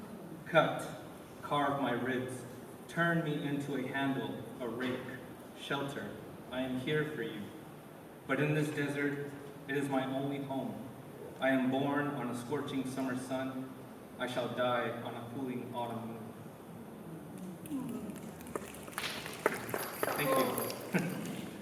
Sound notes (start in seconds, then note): 17.6 applause